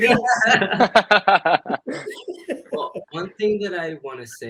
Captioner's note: all laughing